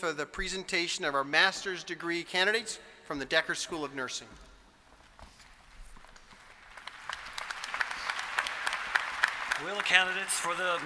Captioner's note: applause